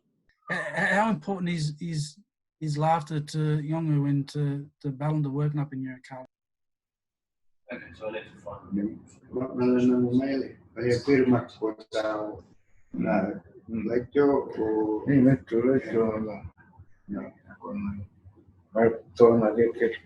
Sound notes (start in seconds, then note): 7.6 speaking in Yolŋu